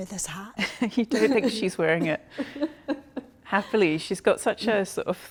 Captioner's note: chuckling